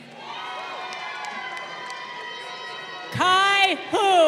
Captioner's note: crowd cheering